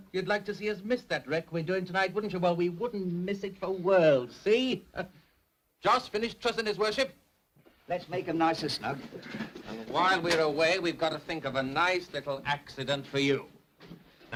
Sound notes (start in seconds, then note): none